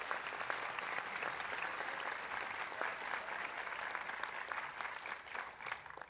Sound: applause

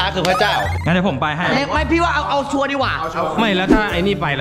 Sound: pat

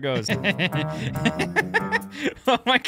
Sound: laughing

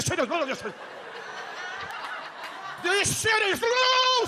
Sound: audience laughs

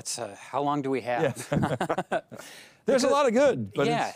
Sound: everyone laughs

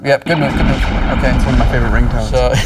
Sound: laser sounds

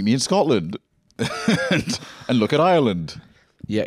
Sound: laughs

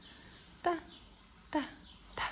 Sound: Arabic

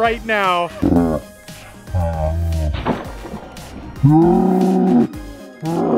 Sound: slo-mo sploooooshing & laughing

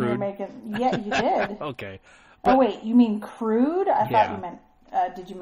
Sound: DJ laughs

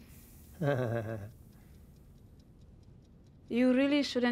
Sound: Tom chuckles

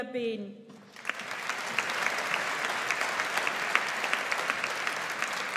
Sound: audience applauds

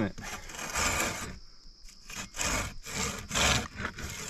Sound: saw scraping

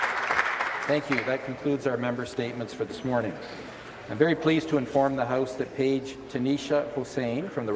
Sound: applause

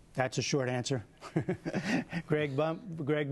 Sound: laughter

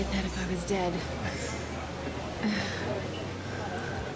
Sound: Peter chuckles

